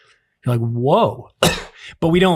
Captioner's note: coughs